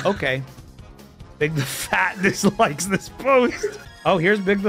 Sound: laughs

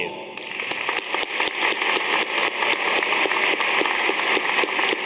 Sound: audience applauding

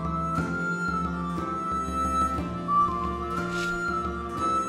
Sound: just started... woosh

